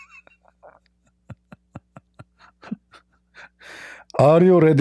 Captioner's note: Ketawa